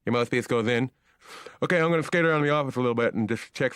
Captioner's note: lisping